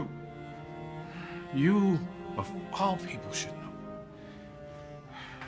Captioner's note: sighs